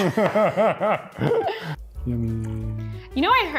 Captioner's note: laughing